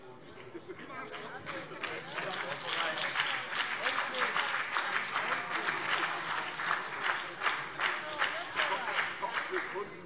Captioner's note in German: Beifall BÜNDNIS 90/DIE GRÜNEN